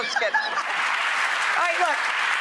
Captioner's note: Rachel laughs; audience applauding